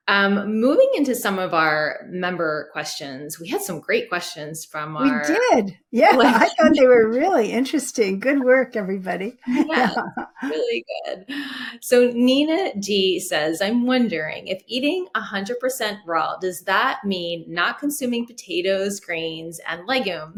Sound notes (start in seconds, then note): 9.4 laughs